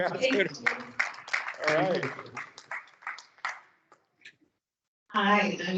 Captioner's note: students applauding